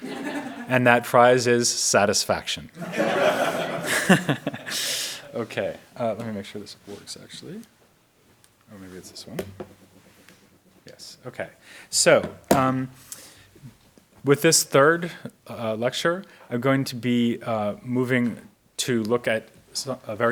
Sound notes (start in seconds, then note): 0.0 audience laughs; 2.8 audience laughs; 2.8 laughing